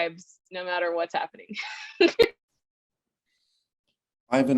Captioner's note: chuckle